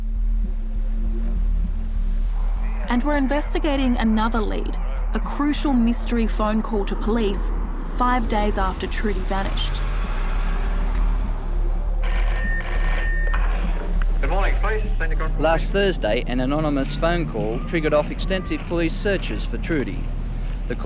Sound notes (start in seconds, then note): 0.1 suspenseful music; 10.0 suspenseful music; 12.3 phone rings